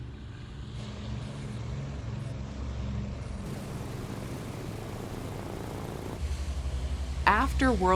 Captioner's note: engines rumbling